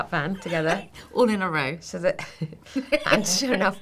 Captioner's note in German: lachen